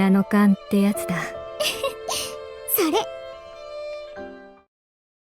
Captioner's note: chuckle